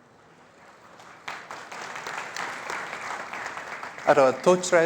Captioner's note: applause